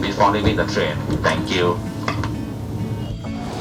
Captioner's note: announcements